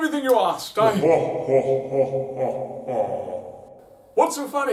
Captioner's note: laughing; Delgatoan on speaker